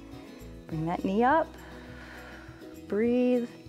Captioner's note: exhales